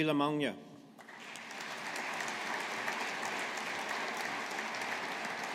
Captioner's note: audience applauding